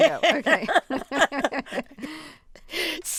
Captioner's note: laughter